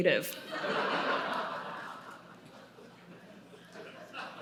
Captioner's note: audience laughing